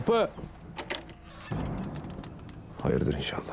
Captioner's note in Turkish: Kapı açılma sesleri; Kapı gıcırdama sesleri